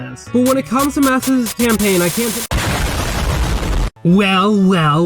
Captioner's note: cut off by explosion sound effect